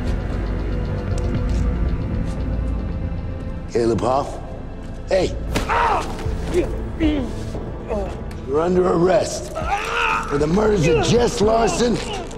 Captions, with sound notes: Caleb Hoff, hey. - [screams] [moans] - You're under arrest for the murders of Jess Larson